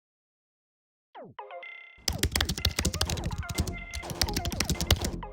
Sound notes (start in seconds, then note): 2.0 keyboard clacking